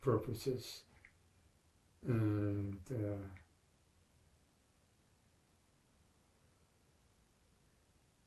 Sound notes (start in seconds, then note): 0.8 pauses 6 seconds